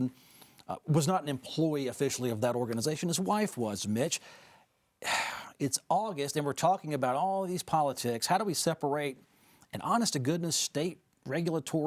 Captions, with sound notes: And for the record, Mark Robinson was not an employee officially of that organization. His wife was, Mitch. [Host sighing] It's August and we're talking about all of these politics. How do we separate an honest-to-goodness